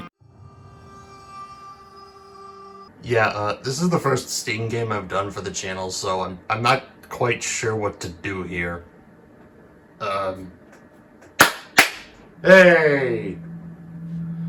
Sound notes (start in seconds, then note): 11.2 clap clap